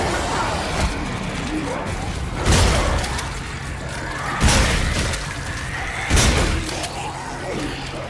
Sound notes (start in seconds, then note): 2.3 gun firing